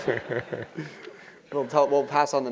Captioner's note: laugh